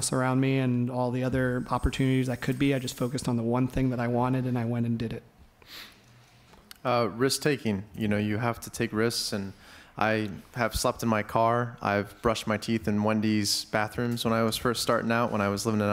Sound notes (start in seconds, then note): none